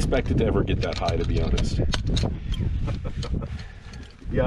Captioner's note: seatbelt clicking; student chuckling